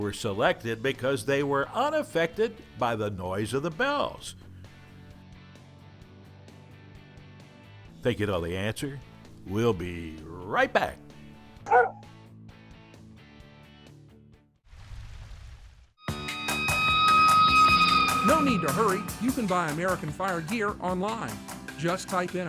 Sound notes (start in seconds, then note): 11.6 barking; 16.1 siren